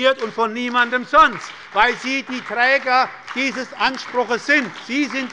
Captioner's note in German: Beifall bei der SPD